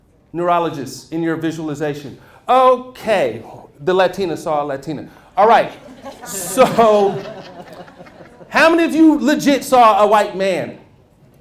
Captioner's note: laughter